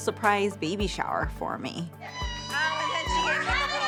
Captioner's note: screaming joyfully